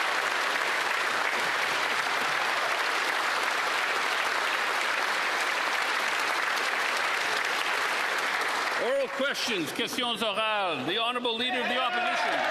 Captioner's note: applause